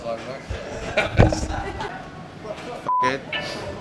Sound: laughs

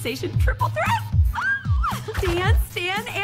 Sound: squeals

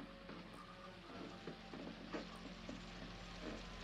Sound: sizzling

